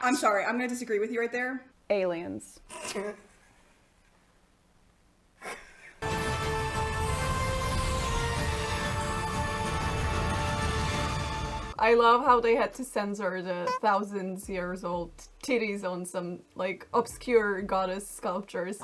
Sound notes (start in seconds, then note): 2.7 giggling; 6.0 sci-fi music